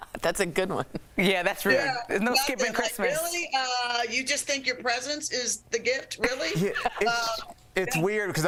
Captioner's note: laughter